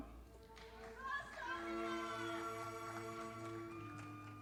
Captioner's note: audience applauding